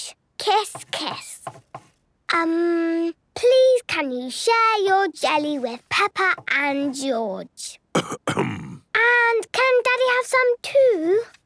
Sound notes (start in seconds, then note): 7.9 coughs